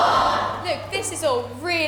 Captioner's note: audience: “Aww!”